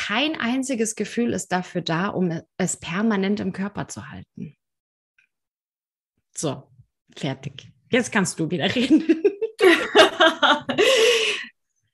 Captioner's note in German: lachen